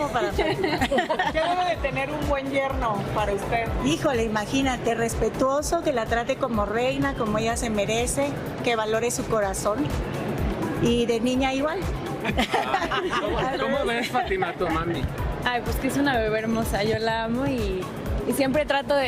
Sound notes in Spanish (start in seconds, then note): 0.2 risas; 12.2 risas